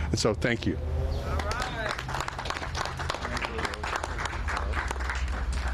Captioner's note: applause